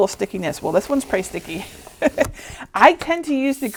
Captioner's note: chuckling